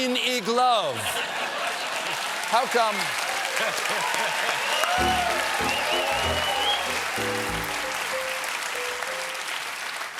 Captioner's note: applause